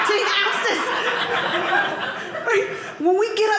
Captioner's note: audience laughing